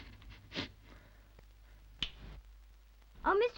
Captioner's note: weeping softly; snaps fingers